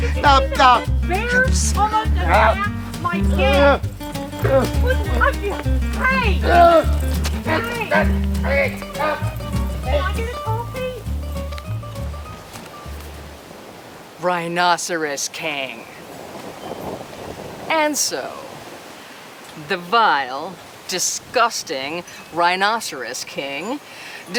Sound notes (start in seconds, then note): 0.2 upbeat music; 6.5 mom's voice; 11.5 upbeat music; 13.6 wind whooshing